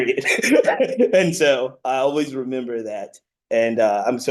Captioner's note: laughs